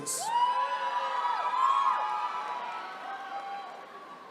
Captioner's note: attendees cheering